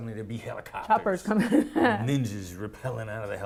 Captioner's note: chuckling